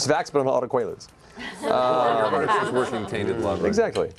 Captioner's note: laughter